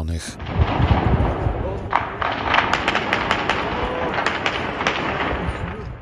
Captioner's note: shots